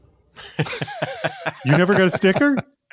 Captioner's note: everybody laughing